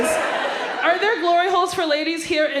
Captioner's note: audience laughs